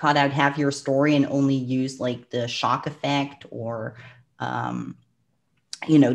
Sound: clicks tongue

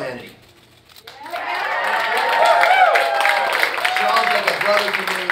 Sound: audience cheering and applauding

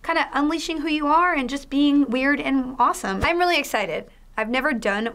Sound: none

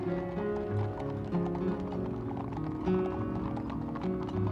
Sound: horse hooves clopping

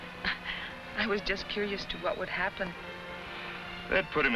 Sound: chuckles

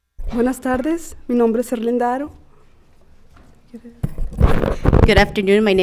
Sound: speaking Spanish

